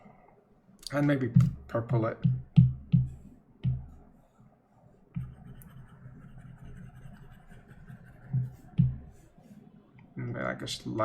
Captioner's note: tapping, scratching